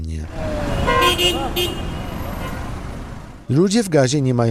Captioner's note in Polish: Odgłos ulicy